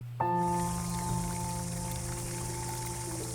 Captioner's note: birdsong and nature sounds